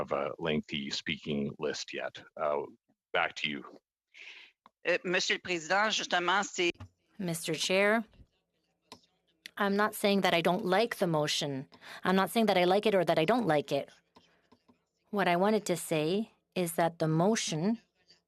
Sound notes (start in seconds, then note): 10.9 speaking French